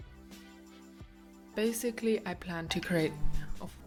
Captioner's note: notification sound